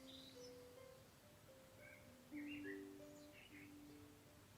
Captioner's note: birds chirping